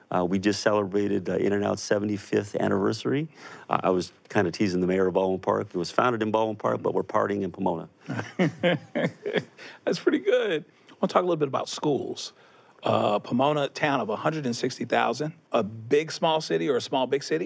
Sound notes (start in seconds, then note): 8.0 laughter